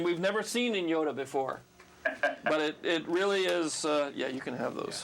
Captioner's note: laughs